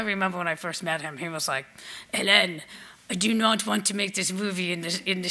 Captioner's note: speaks with French accent